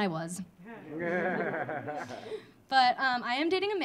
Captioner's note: audience laughing